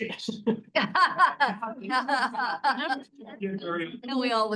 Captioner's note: laughter